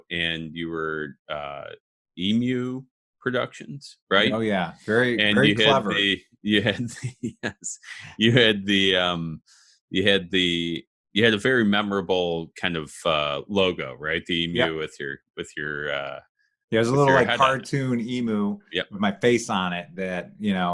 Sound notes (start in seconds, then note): 5.1 laughing